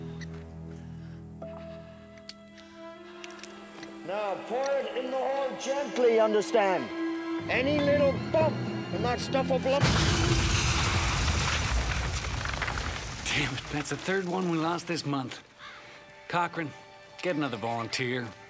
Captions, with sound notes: Now, pour it in the hole gently, you understand?! Any little bump and that stuff’ll blow up- - [kaboom!] Damn it. That’s the third one we lost this month. Cochrane, get another volunteer.